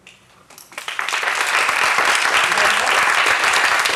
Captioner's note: applause